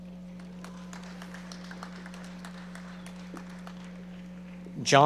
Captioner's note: audience applauding